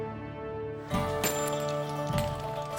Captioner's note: bangs